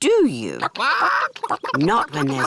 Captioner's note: chickens chatter